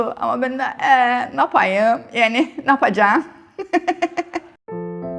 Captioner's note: in Cypriot